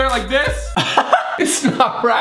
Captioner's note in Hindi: हँसता है